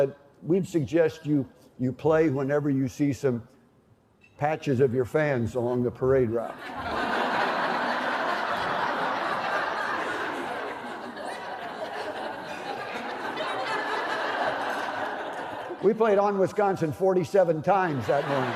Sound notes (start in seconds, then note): 6.6 laughter